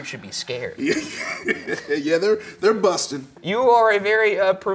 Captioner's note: laughs